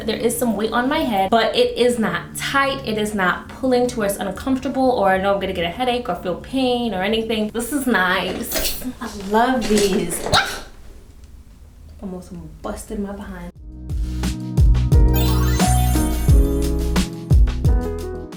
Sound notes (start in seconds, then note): 10.1 shreiks